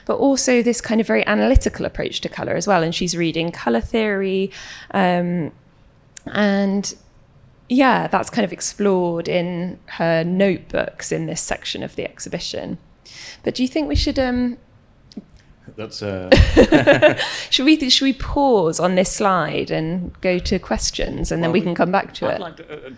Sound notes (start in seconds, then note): 16.3 panel laughs